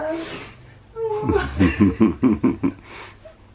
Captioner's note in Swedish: Pappa skrattar dovt